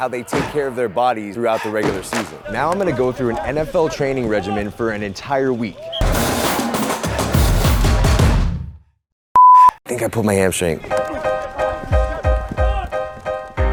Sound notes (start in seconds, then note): 5.6 whistle blows; 6.0 upbeat music; 10.9 upbeat piano